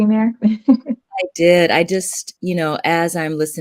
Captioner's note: chuckles